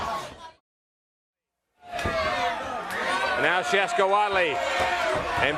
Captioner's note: crowd chatter